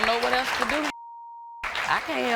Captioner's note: beep